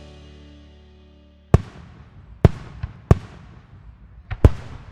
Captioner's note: fireworks popping